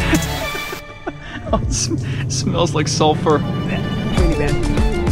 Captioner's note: laughs; lively music